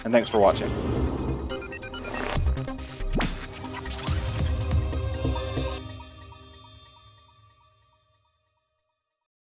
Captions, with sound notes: and thanks for watching. (low whooshing) (upbeat electronic music)